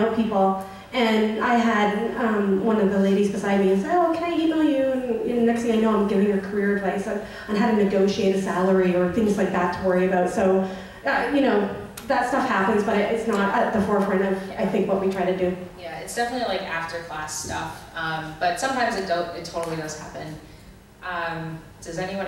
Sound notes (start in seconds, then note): 16.6 voiceover